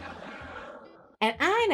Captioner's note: laughing